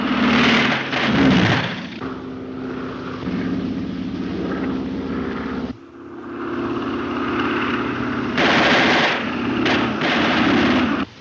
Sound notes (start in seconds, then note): 0.2 guns firing; 4.1 Phantom buzzing; 8.3 guns firing